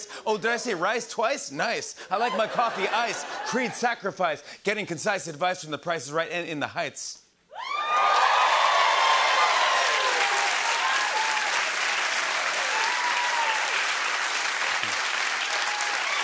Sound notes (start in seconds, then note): 7.3 cheers and applause